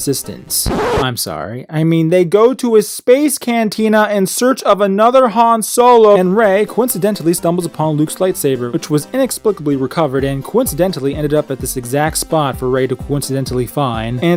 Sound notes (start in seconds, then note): 0.4 record scratch